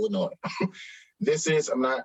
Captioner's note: chuckles